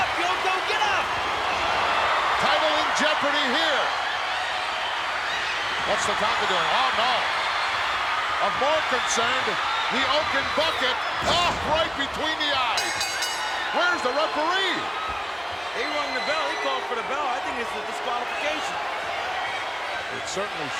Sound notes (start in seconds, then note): 12.7 bell rings